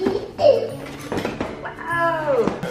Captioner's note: giggles